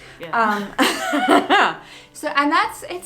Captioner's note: laugh